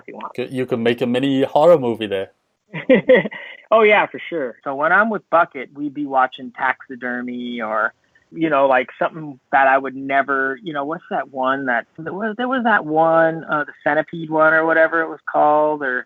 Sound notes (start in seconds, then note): 2.8 laugh